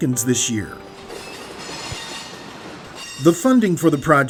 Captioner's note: train noises